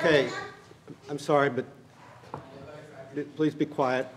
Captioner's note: gavel